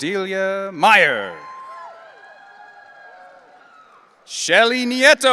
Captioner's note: audience cheering